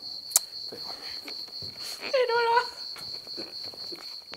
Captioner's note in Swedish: skrattande